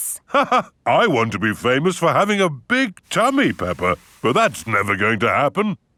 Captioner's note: laughs